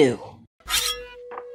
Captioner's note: shing